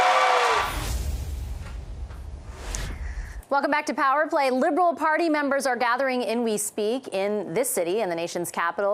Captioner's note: cheering and APPLAUSE